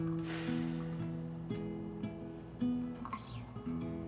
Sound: Sam sighs

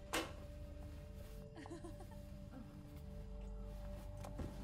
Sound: woman giggling

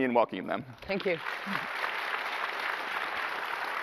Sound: applause

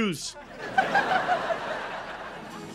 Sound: laughing

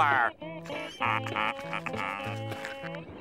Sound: laughing to himself

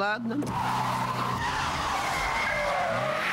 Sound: brakes squeal

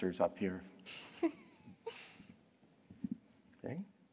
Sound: laughter

